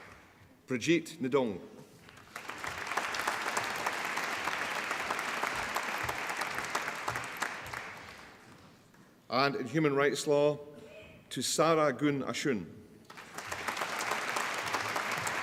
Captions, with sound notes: Brigitte Ndong (APPLAUSE) And in Human Rights Law Thushaara Ganesan (APPLAUSE)